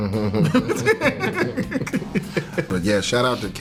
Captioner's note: Kel laughing